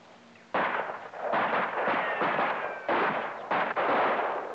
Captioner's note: guns blasting